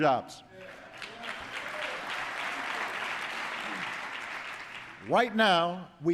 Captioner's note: applause